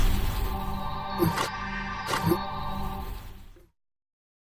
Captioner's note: logo warping